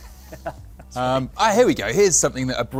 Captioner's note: laughs